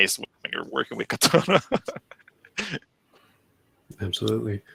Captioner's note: laughs